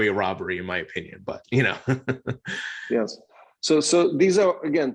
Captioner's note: chuckling